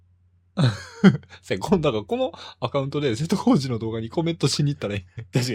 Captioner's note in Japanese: 笑い